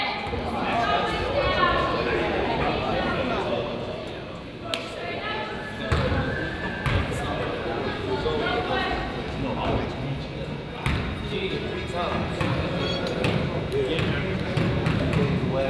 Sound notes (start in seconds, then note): 0.7 coach yells